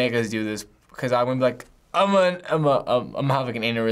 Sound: stutters

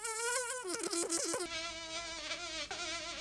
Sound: sound of insect buzzing; fly buzzing

